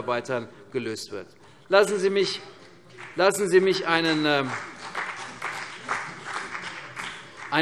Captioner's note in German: Beifall CDU und BÜNDNIS 90/DIE GRÜNEN